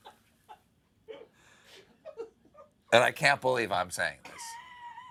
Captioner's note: laughter